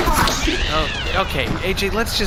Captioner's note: charges blaster